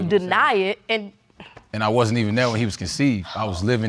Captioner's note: sighs